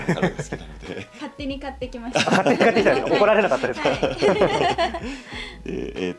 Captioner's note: laughs